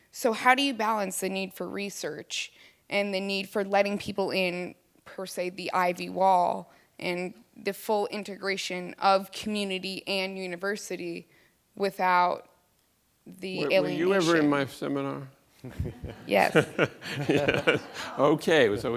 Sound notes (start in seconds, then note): 15.6 audience laughs; 15.6 laughs